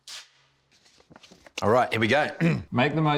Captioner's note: clears throat